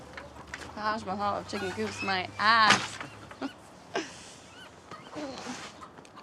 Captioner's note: chuckles